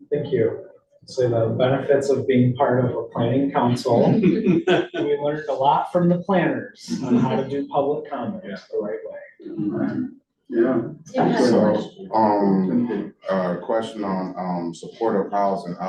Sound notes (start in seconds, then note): 3.9 laughter